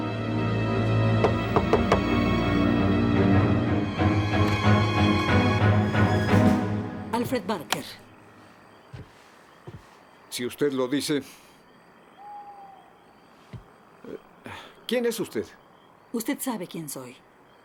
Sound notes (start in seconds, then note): 1.2 knocking; 2.1 scary music